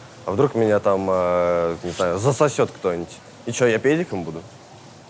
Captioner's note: none